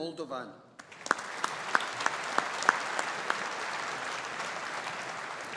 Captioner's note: audience applauding